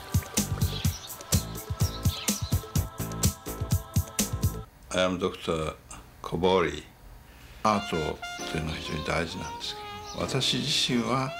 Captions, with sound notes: [ Japanese accent ] I AM DR. KOBORI. [ SPEAKING JAPANESE ]